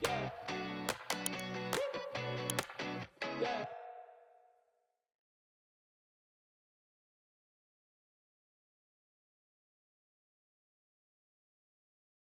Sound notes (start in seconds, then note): 1.0 mouse clicking; 1.4 man vocalizing